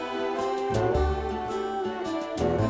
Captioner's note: none